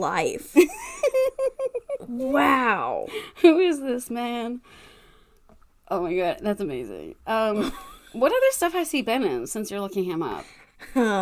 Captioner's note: laughs